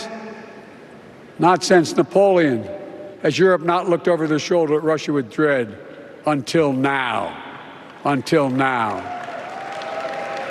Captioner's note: applause